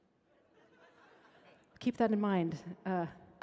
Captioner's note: audience laughing